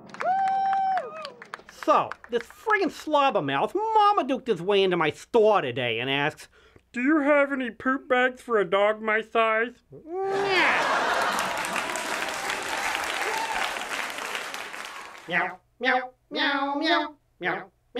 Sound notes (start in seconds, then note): 0.0 audience Applause; 6.7 mocking voice; 10.3 audience Laughter and Applause; 15.0 Roscoe meowing